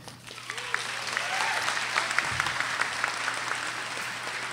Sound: audience applauding

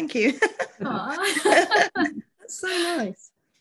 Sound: laughter

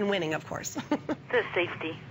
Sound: laughter

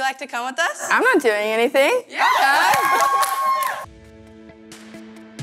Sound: all cheering; bright upbeat music

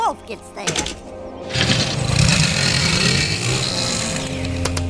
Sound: engine noise

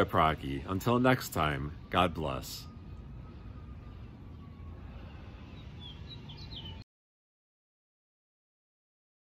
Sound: deep breath

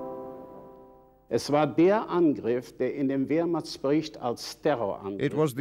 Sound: speaking in foreign language

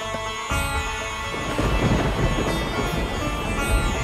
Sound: storm rumbling

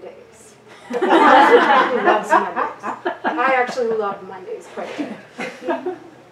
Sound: audience laughter

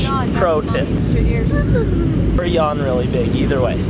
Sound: yawns

